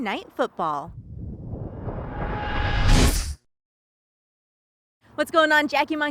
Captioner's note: lightning strike sound effect